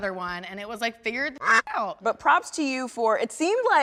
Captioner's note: quack